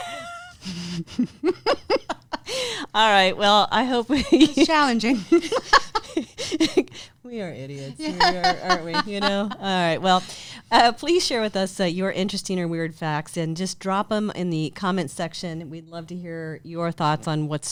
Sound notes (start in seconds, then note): 0.0 both giggle; 4.0 laughs; 7.9 laughing